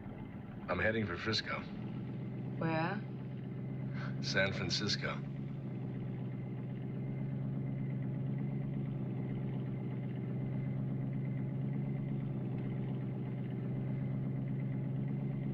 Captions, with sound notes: - I'm heading for Frisco. - Where? [ Chuckles ] San Francisco.